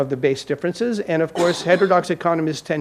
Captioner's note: audience member coughs